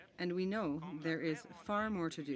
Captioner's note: speaking French